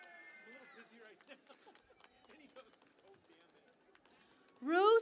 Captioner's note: cheering and Applause